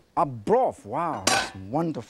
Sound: pot lid clanks

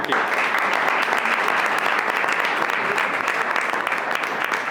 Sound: audience applauds

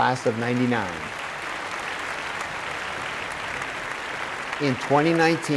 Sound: applause

